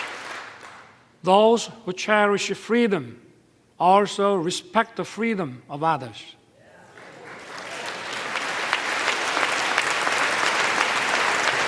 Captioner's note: applause